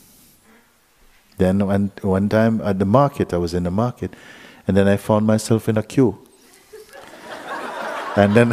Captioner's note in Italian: risate